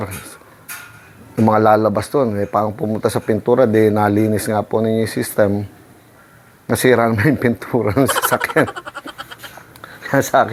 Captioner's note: laugh